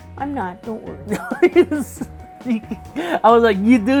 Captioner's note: laughing